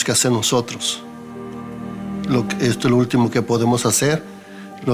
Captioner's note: man speaking Spanish